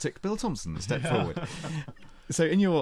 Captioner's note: laughter